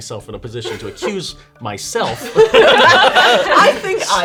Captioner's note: laughing